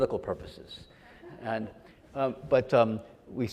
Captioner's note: audience laughs